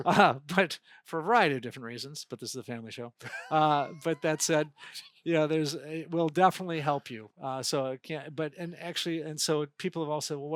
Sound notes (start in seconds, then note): 3.2 laughing